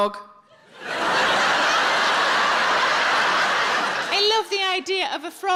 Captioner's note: audience laughs